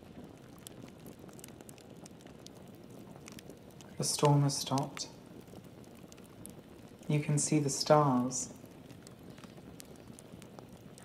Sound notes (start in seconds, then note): none